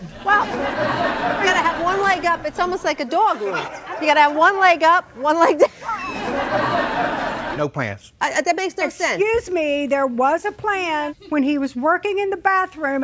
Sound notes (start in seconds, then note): 0.0 audience laughs; 5.4 laughs; 5.4 audience laughs